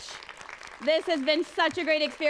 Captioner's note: applause